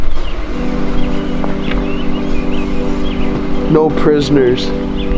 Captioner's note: spraying sound